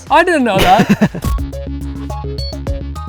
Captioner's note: laughs